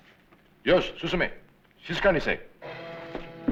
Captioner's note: non-english speech; intriguing music